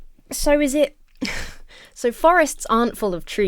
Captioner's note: chuckles